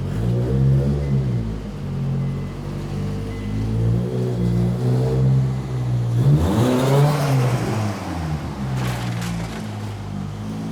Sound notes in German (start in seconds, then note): 6.1 lässt Motor aufhäulen; 8.8 Knischendes Geräusch